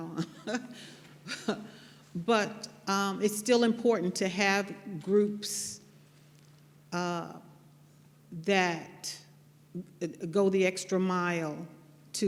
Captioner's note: laughter